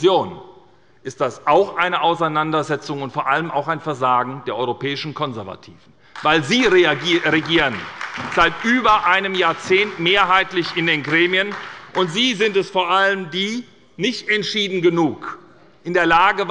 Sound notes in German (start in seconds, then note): 6.1 Beifall bei der SPD